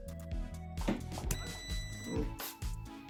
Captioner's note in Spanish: sonido: piiii